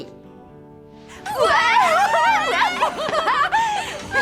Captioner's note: screaming for joy; laughing